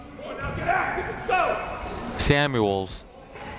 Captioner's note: people shouting in the crowd